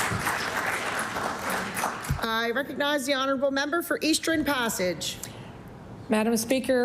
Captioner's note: applause